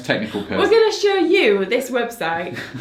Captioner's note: laughs